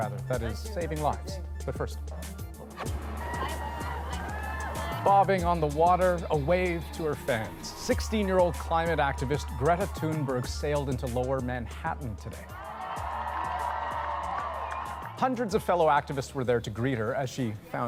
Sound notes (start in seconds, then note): 3.1 applause; 12.5 applause